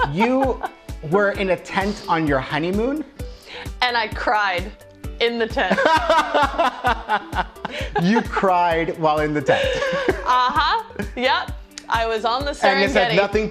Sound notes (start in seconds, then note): 5.7 laughing loudly